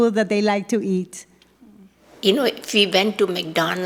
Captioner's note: soundbite of archived recording